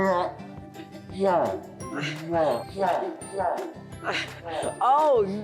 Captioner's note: children laughs